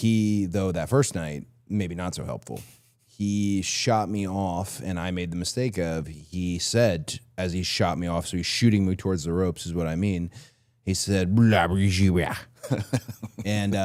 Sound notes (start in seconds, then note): 11.5 speaks gibberish; 12.5 Chad laughs